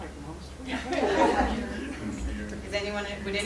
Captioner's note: laughter